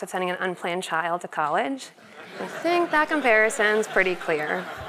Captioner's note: laugh